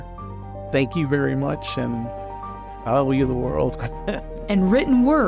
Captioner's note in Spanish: risas